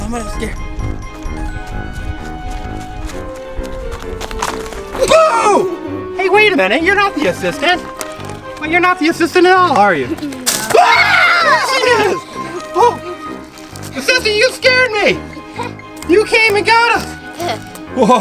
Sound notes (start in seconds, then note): 10.6 all screaming